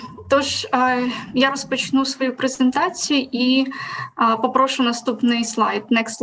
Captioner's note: foreign Language